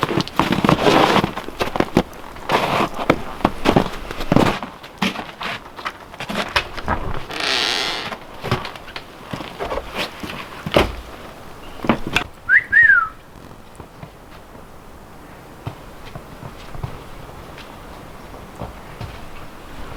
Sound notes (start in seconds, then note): 2.8 snow crunching; 6.6 door creaking; 12.4 woman whistles